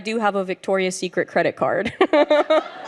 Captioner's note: chuckles; audience laughs